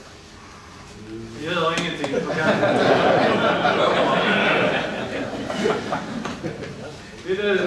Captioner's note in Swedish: Skratt